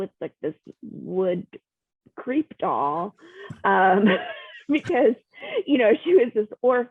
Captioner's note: laughs